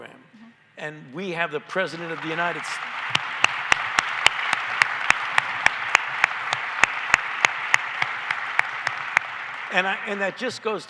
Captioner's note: applause